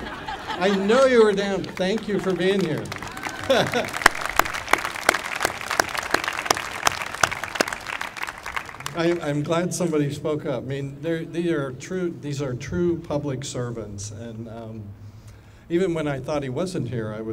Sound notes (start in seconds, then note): 2.9 applauding